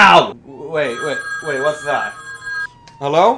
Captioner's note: phone ringing; siren noises